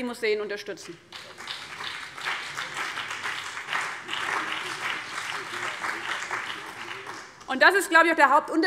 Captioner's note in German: Beifall CDU und BÜNDNIS 90/DIE GRÜNEN